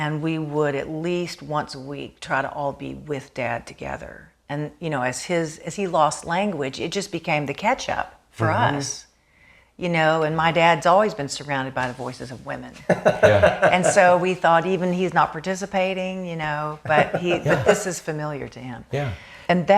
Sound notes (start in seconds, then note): 12.8 laughs